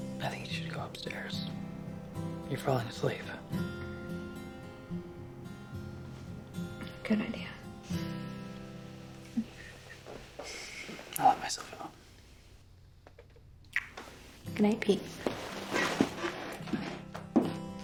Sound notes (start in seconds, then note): 13.7 lips smack